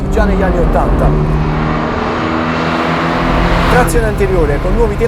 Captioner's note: engine HARD REVVING